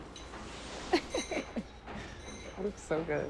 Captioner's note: laughing